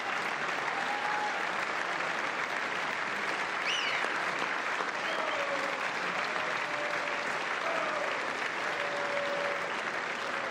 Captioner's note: applause